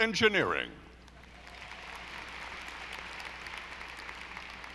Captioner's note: audience applauding